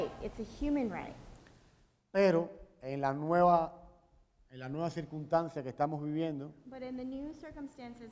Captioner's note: speaking in Spanish